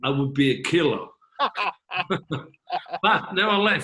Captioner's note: both laughing